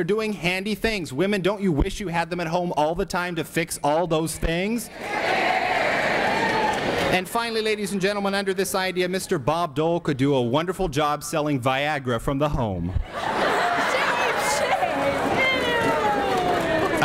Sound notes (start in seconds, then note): 5.2 ladies yell Here Here; 12.8 shame shame ewwwww and laughter